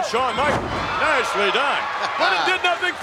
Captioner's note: audience cheers